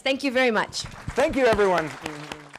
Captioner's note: applause